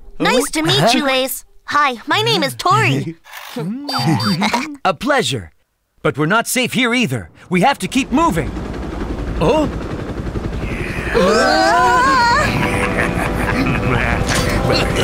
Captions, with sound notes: Nice to meet you, Ace! Hi, my name is Tori. [Melo honks] A pleasure. But we’re not safe here either! We have to keep moving! [helicopters whir] Oh? [all shriek] [evil laughter]